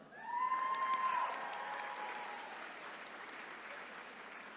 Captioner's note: attendees cheering